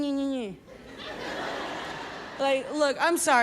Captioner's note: audience laughs